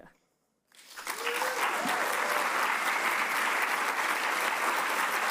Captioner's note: audience applauds